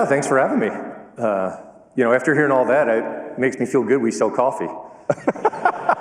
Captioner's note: laughter